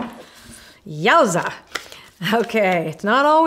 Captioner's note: shuffles cards